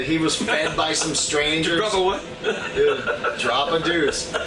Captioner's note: laughs